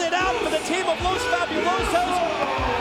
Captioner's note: bell ringing